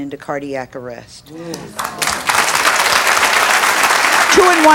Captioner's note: audience applauds